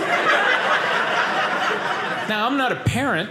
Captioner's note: audience laughing